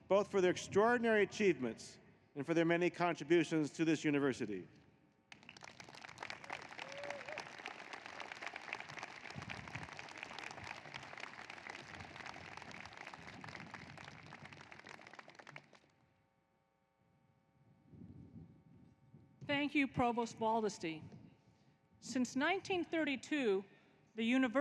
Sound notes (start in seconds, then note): 11.8 applause